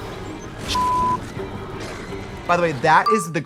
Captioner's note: beeping